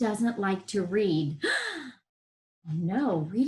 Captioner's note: gasps